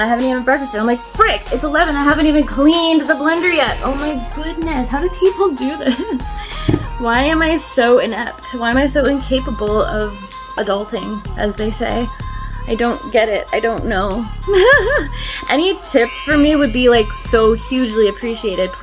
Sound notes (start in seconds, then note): 5.6 giggles; 14.4 laughs